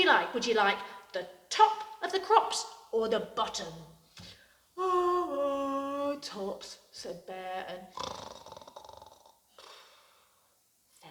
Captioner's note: yawns; snores